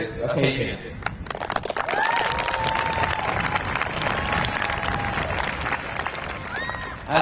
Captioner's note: crowd applauding; crowd cheering